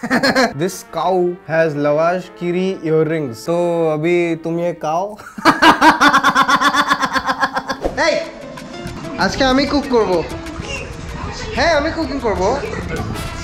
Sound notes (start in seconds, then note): 5.3 laughing again